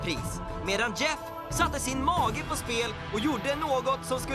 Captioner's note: none